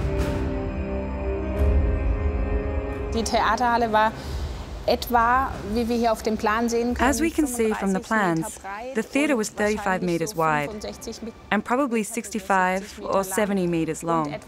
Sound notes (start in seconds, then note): 3.1 German spoken audio